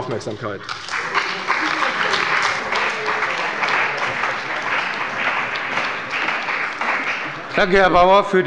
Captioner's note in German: Beifall bei der CDU und dem BÜNDNIS 90/DIE GRÜNEN